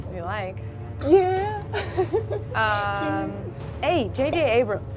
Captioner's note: laughs